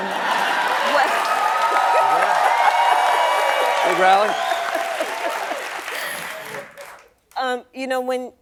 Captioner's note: cheering